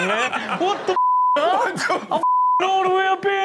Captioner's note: beep